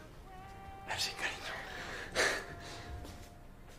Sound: laughs

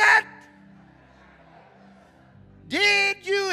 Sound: congregation laughing

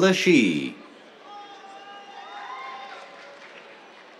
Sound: cheers, applause

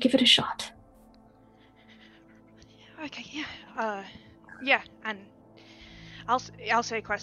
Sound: shaking breath in

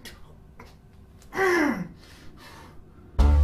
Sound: angry grunt

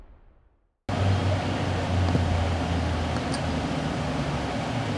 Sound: engine humming

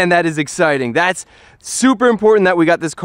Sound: inhales

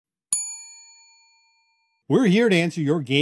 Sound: bell rings

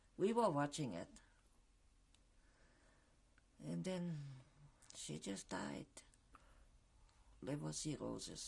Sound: pauses for 3 seconds

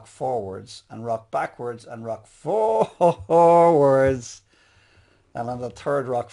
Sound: chuckles

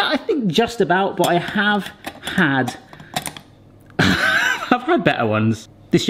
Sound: laughs

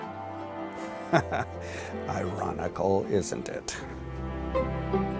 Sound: laughs

